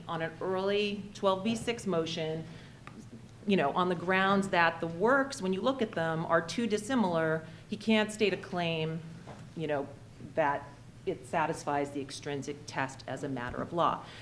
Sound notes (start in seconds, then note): none